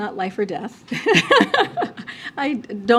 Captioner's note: laughs